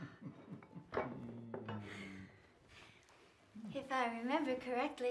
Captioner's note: chuckles